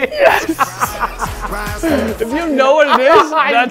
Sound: laughter

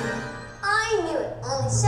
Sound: voiceover

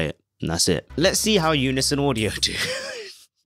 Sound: laughing

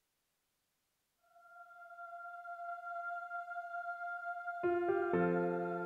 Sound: ethereal voice

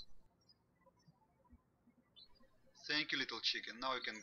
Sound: birds chirping

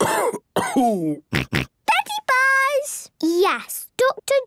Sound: cough; snort

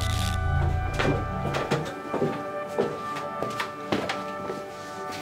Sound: feet thudding

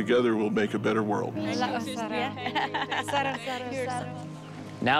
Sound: people speaking in foreign language

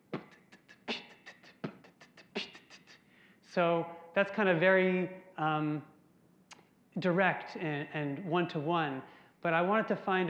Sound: beatboxing

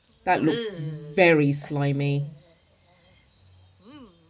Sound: none

